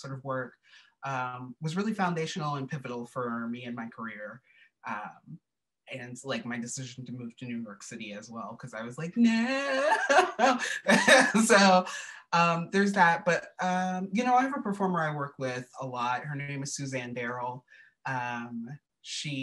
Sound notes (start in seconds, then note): 9.3 laughter